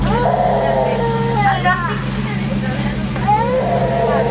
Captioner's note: baby crying